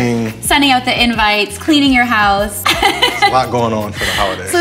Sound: chuckles

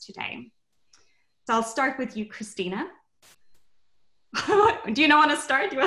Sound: laughs

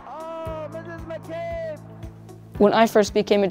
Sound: announcer yelling

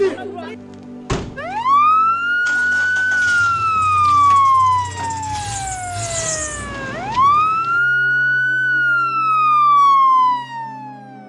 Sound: siren

